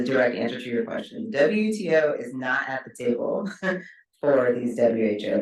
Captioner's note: chuckles